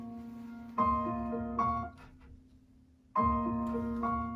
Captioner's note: music stops